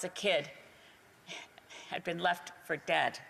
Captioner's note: speaking Indigenous Language